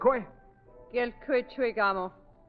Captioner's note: speaking foreign language